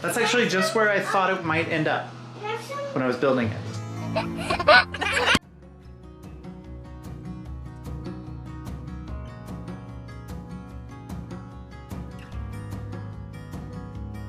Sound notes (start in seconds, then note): 4.0 giggles; 5.5 gentle happy music